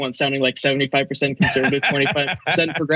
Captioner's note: laugh